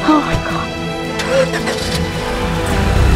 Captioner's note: Engine starts